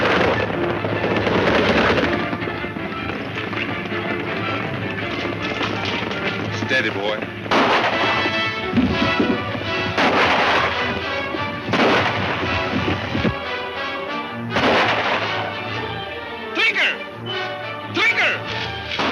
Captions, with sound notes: (upbeat music) - Steady boy. (gunshots) - Trigger.